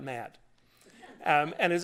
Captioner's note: laughter